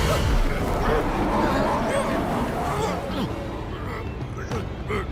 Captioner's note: Dark Yoda yells out; Dark Yoda grunting